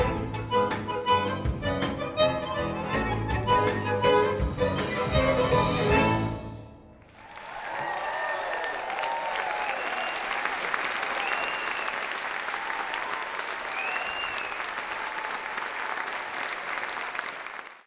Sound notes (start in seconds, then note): 7.0 crowd applauding